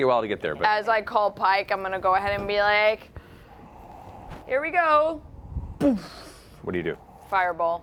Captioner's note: boom